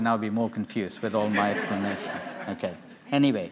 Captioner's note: audience laughing